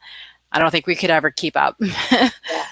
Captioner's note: laughs